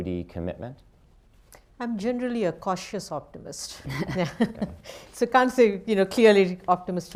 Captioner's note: chuckles